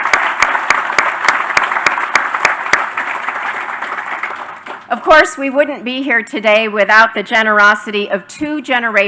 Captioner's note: applause